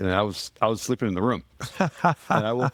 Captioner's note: laughing